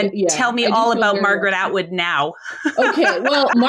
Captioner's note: laughs